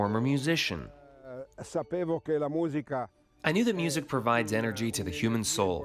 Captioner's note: through translator